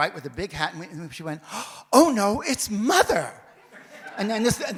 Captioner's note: audience laughs